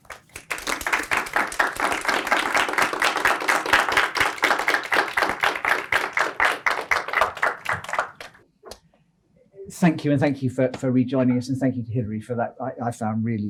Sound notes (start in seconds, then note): 2.0 applause